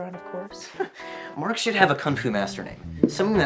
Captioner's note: chuckles